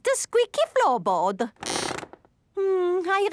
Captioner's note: squeaks